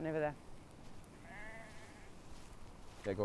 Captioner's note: sheep bleating